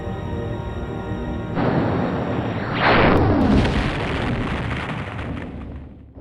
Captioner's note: laser pulse and explosion